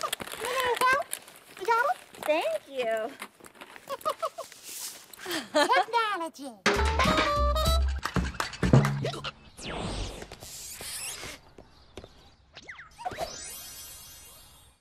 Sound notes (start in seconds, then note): 3.8 laughs; 3.8 chuckles